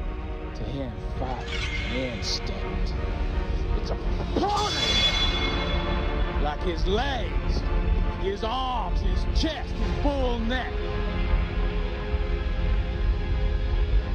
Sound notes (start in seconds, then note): 4.5 blades clanking; 10.9 dramatic music